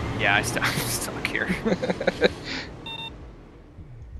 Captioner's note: both laugh